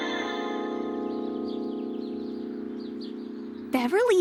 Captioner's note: none